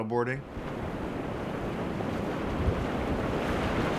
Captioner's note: ocean crashing